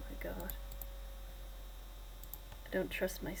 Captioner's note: laptop whirring